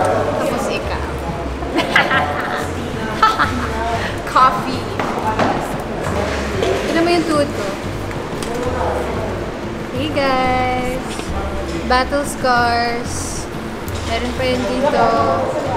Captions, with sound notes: And then, you as well. (snicker) (evil laughter) Coffee. Look at my knees. Hey guys! Battle scars! There are more here.